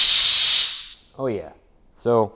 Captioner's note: drill whirring